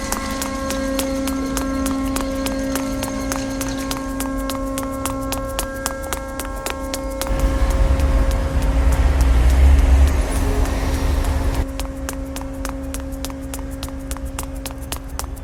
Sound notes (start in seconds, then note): 7.2 traffic whooshing; 7.4 shoes continue clacking